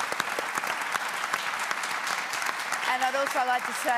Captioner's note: applause